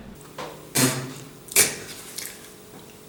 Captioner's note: spits and coughs